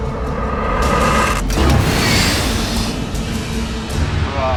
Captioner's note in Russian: выстрел